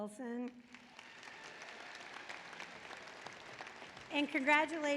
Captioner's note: applause